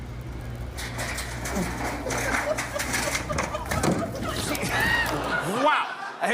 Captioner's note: clanging